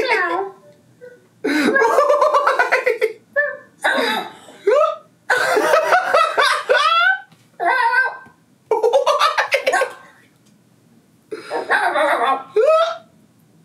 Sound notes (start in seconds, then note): 0.0 laughs; 1.5 laughs; 7.6 questioner makes silly sounds